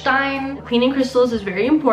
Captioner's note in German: englisch